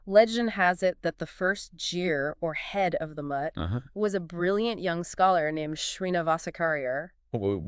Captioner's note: jeer